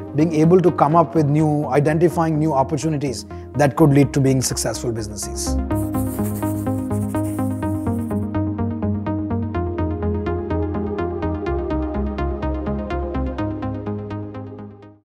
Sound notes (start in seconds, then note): 4.4 electronic music; 5.7 pencil scratching